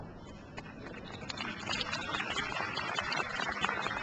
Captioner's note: crowd applauds